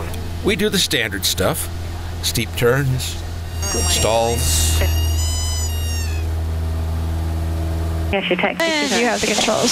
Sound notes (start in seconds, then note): 4.5 plane engine rumbling